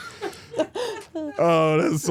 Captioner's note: crew members laugh